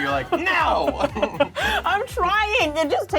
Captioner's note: laughs